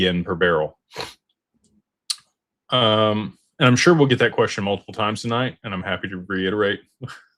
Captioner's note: snorts